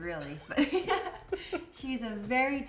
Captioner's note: both laugh